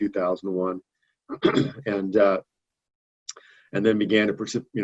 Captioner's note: clears throat